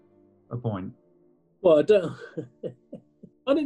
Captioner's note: chuckles